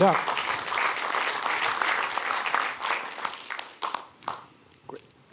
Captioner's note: applause